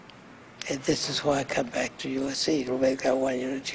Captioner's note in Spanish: habla en ingés